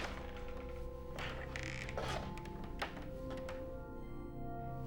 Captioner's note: creaking